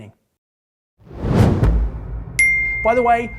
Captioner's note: air whooshes